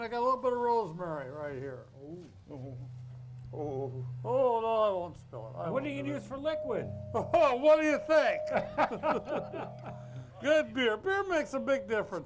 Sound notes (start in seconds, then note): 8.5 all laughing